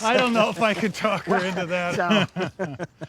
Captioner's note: both laughing